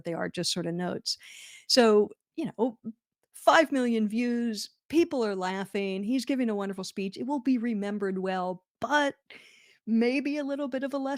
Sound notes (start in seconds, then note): none